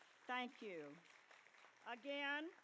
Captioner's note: applause